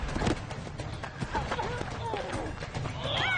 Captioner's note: both grunting